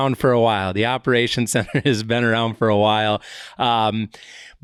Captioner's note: chuckles